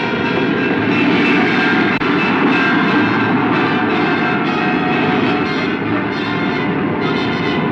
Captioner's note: train bell ringing; train wheels clanking